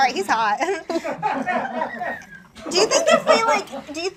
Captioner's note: audience laughs